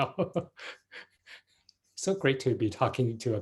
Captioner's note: laughs